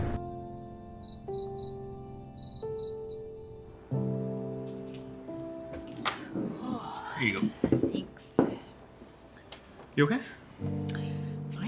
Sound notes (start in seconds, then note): 0.1 insects chirping; 6.2 Mae sighs